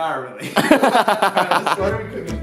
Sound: both laugh

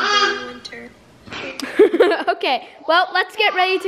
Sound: laughs

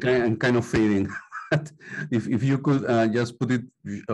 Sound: laughter

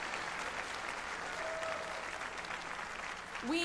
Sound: applause

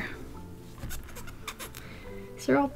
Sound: mouth hissing

